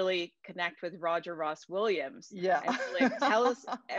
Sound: laughs

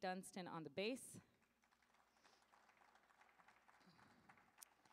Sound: audience applauding

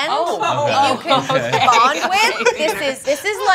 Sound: laughs

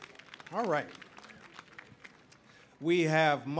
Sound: audience applauding

